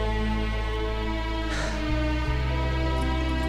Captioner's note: Sighs